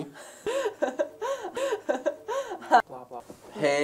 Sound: Lizzie laughing

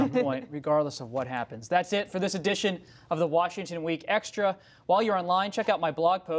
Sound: laughter

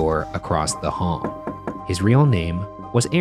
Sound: knocking

